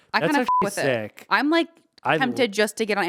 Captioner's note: beep